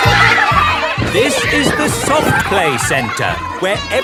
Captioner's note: loudly over shouting